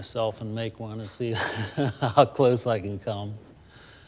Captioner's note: laughs